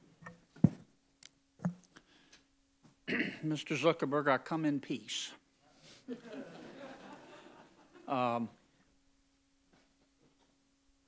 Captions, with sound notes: (LAUGHTER) I - I don't want to vote to have to regulate